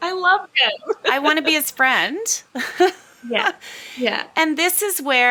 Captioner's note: laughs; laughs